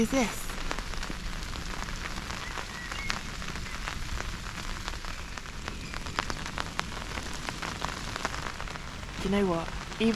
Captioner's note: rain